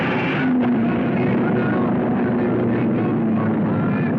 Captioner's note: cars screaming